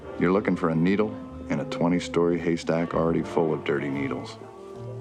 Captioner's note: crowd chattering